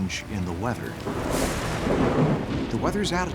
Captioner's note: thunderclap